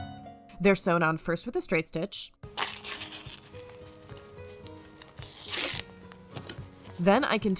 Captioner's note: tape ripping